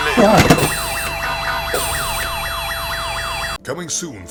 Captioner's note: sirens and alarms